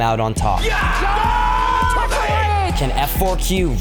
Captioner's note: loud cheering